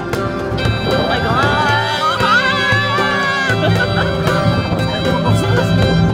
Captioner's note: laugh; scream